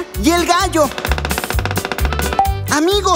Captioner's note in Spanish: Sonido de pájaro carpintero